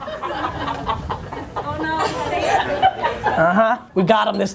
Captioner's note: laughter